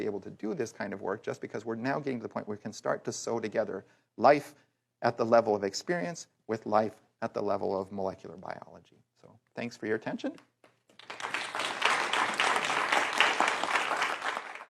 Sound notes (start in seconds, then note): 10.9 applause